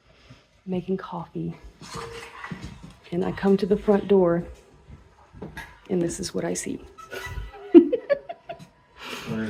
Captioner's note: laughing